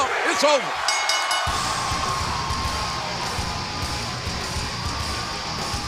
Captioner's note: bell ringing